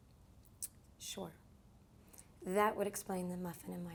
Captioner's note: clicks tongue